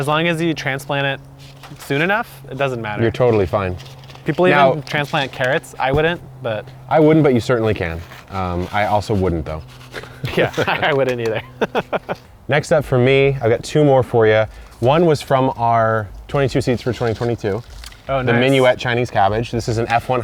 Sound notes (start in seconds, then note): 10.2 laughs